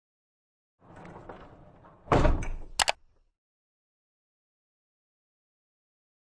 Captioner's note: clicking